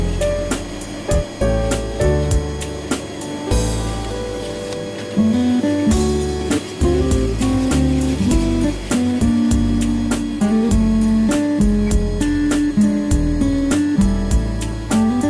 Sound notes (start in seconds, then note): 5.6 garbage disposal